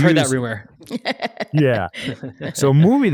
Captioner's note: laughs